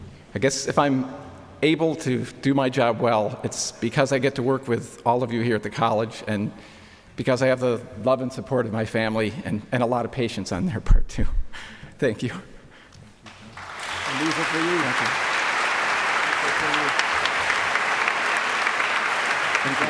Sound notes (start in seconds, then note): 11.6 chuckling; 15.4 applause